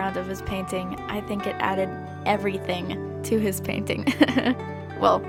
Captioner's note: laughs